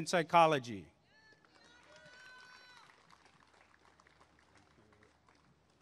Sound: applause and cheering

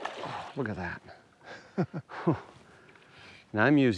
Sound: laughs

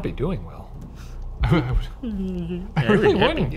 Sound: whimpers

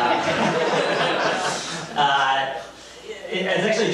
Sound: audience laughs

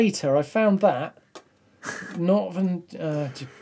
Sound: laughs

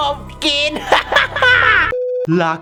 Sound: laughs maniacally

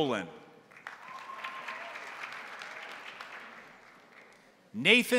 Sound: crowd applauding; crowd cheering

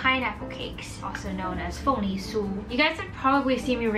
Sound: speaking foreign language

